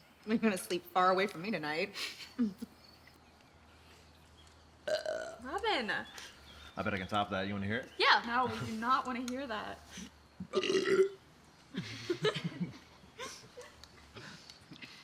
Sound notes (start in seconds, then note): 4.8 Robin burps; 10.4 Theo burps; 11.7 Robin giggles